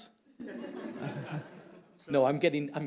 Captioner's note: audience laughing